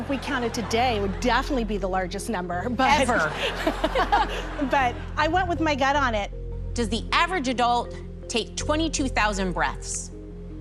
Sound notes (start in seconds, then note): 3.0 both laugh